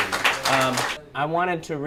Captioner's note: applause